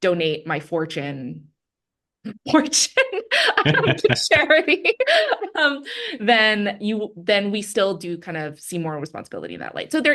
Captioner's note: both laugh